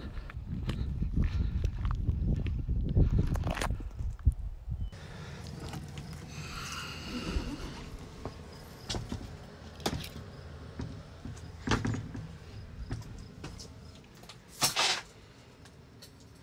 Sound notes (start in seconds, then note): 0.0 wind blowing; 6.1 door opening; 14.0 metal hitting